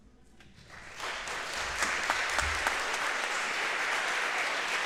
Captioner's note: audience applauding